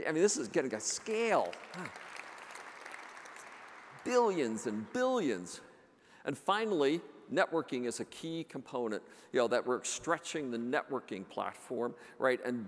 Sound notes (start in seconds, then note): 2.2 audience applauds